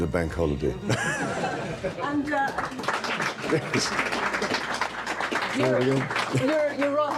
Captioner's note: audience applauding